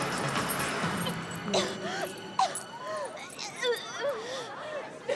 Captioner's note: Courtnee choking